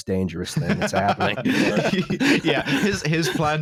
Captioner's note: laughs